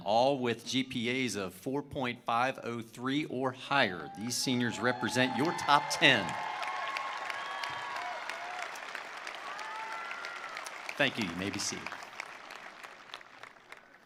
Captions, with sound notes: all with GPAs of 4.503 or higher. These seniors represent your top 10. (attendees applauding) (attendees cheering) Thank you. You may be seated.